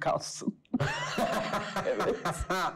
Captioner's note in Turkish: Gülüyor